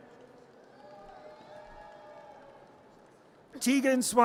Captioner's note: audience cheers